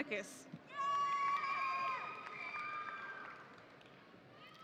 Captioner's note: audience cheering